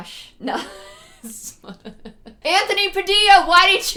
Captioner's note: cracks up